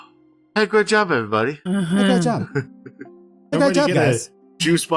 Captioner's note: sighs and groans of relief